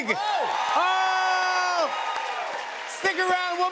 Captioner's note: cheers and applause